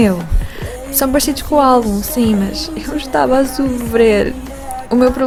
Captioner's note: sobs